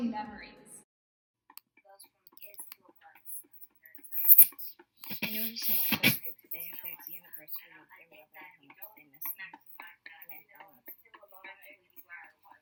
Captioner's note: sound of voices and felting